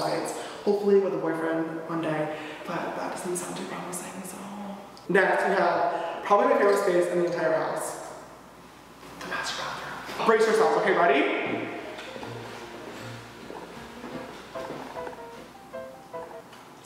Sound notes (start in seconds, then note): 9.0 whispering; 11.5 footsteps